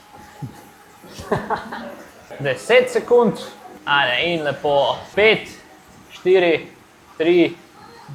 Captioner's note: laughter